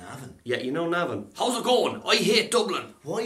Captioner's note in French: autre accent